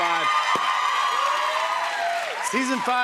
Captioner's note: cheers and applause